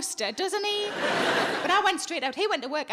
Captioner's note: audience laughing